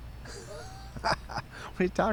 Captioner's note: Pete laughs